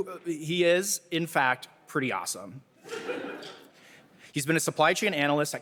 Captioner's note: audience laughing